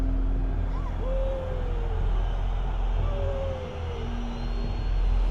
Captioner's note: crowd cheering